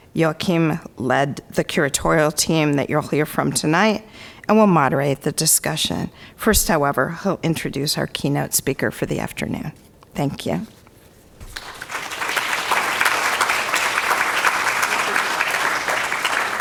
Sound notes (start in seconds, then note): 11.4 crowd applauds